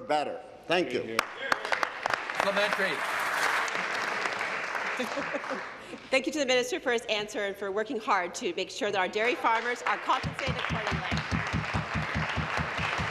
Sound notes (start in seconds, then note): 4.5 applause